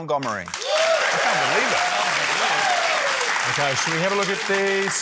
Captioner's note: cheering, applause